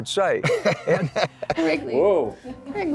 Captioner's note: laughs